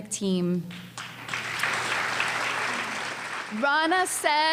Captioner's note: applause